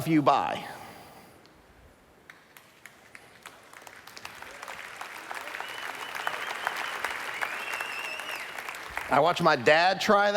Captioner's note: applause